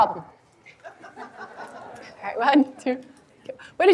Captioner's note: audience laughing